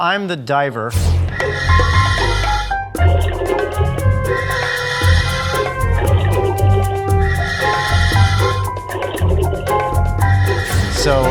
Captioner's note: scuba breathing sounds